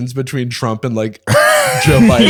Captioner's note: laughter